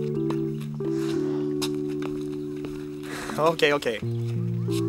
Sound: Megan sighs

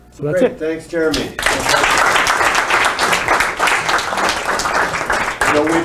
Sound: applause

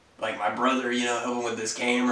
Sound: none

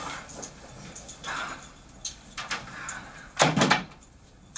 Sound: sighs

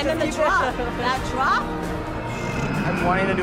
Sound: exhales sharply

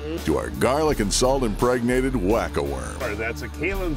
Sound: voiceover

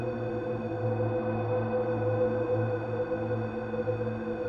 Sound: none

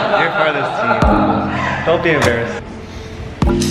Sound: group laughs; gentle music

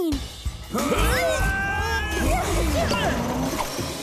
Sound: all Groaning

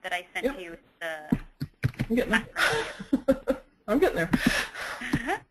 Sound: laughs

